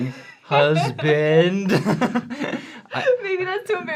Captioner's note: laughs